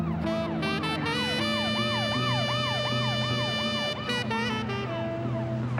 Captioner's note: siren